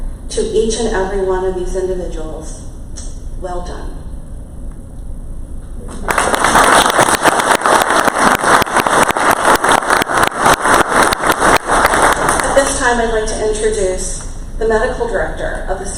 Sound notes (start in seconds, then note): 5.9 crowd applause